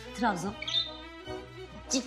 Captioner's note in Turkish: Kuş sesi